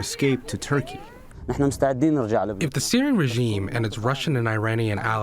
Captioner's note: through translator